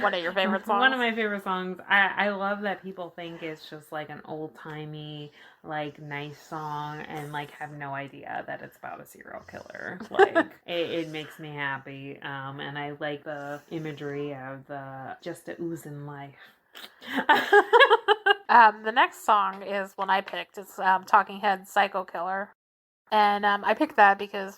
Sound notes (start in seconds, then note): 10.0 laughs